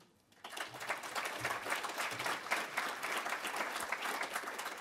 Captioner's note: audience applauds